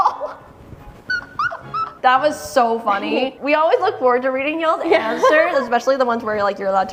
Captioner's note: laughs